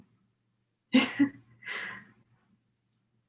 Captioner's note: laughter